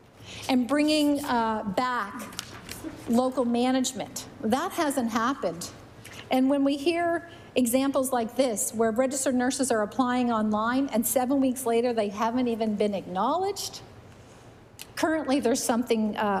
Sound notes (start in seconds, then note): none